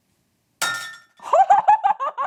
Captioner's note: loud clanking; laughs